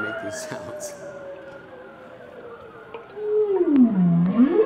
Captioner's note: whale songs